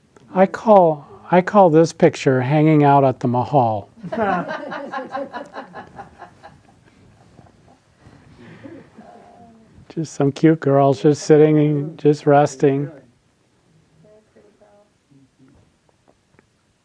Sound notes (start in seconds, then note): 4.0 audience laughing